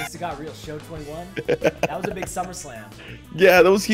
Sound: laugh

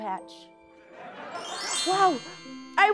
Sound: chimes

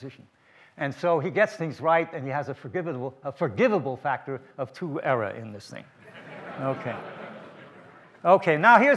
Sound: laughter from the audience

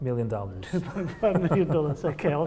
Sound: laughing

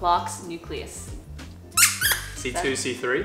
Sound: squeaks

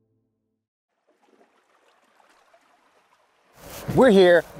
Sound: water bubbling

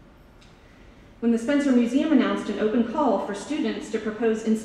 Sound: none

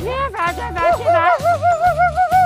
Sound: switches to monkey language

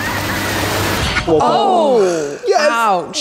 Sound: intense music; everyone groans

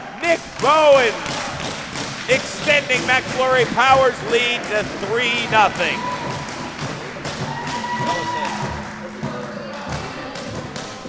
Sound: cheering in the distance, music playing

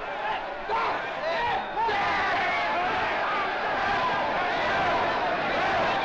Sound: crowd angrily clamoring; crowd angrily clamoring and chanting "Death!"

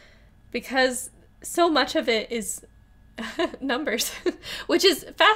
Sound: laughs

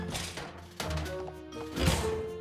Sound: oven door squeaks; oven door slams

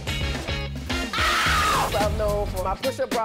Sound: upbeat music; screaming

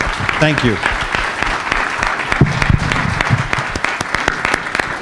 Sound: applause

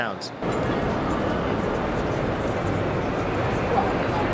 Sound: deep and constant hums

